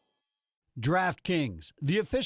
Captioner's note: voiceover